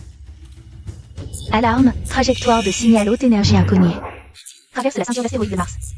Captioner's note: alarm